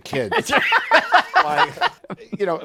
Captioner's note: laughter